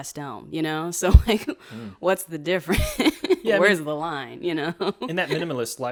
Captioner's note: laughs